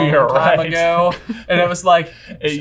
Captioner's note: chuckles